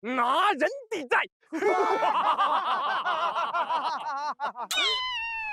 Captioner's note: hahaha